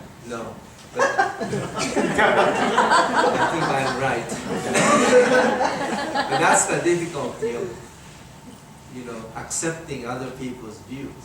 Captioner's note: everyone laughing